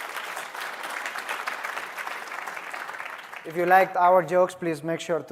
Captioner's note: applause